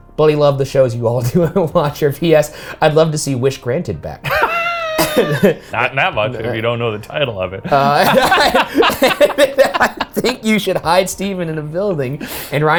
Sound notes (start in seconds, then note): 4.2 both laugh; 7.6 both laugh